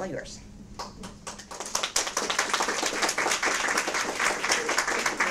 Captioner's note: audience applause